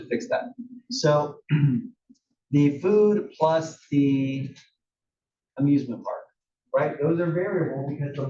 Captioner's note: cough